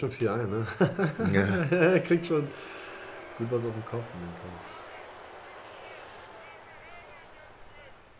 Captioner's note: lachen